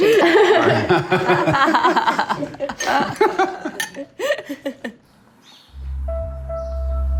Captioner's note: laughs